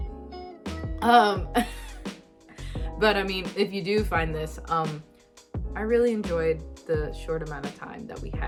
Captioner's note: laughs